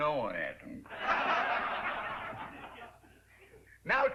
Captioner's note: laughter